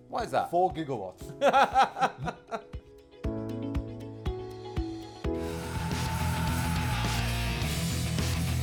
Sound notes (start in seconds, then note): 1.3 laughing; 3.2 upbeat music